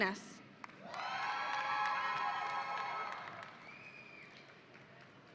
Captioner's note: audience applauding